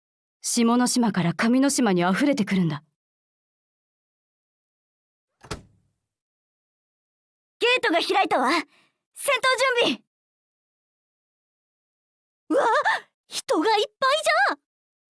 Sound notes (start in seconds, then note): 5.4 creak